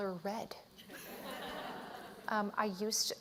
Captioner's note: laughter